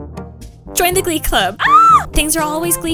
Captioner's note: scream